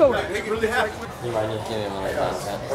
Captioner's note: none